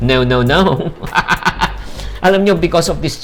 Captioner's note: laughs